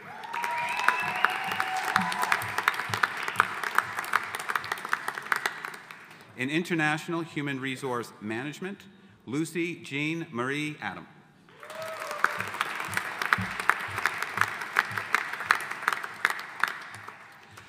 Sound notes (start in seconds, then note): 0.0 audience applauding; 11.6 audience applauding